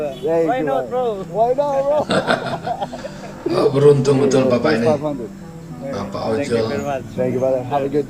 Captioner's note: laughs